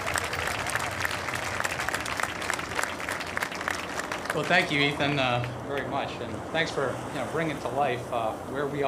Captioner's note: applause